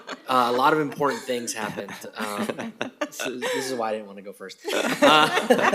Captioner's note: laughter